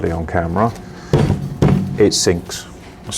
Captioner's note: pot bangs